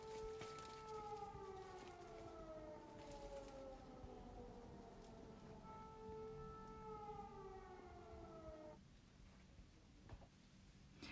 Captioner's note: air alarm